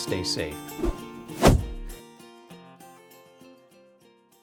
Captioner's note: logo whooshing into place